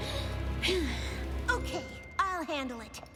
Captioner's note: inhales, exhales sharply